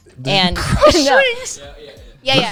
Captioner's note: laughs